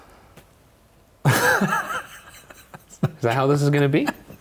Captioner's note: laughing